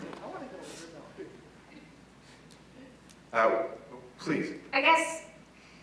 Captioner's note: laugh